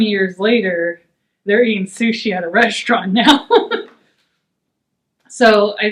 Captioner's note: laughs